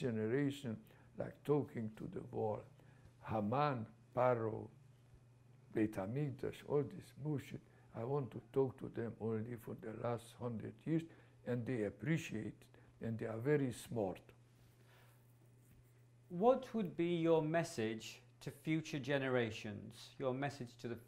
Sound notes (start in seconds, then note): 5.5 non-english